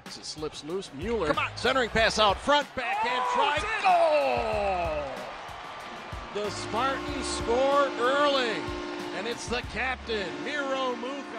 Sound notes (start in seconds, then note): 4.7 crowd cheers